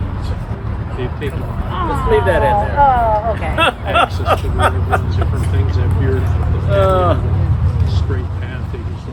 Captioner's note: laughter